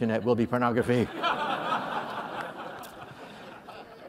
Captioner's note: laughter